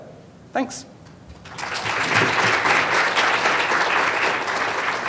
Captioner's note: applause